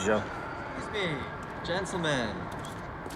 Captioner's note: voiceover